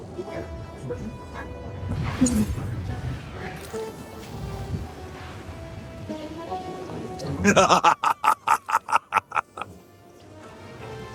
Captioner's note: laughter